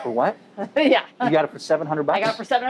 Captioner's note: laughing